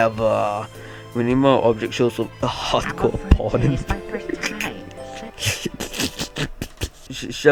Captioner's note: giggle